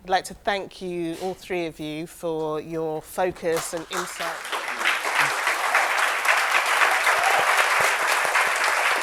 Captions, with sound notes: I'd like to thank you, all three of you for your focus and insight. (audience applauds and cheers)